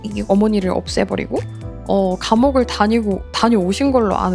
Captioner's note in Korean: none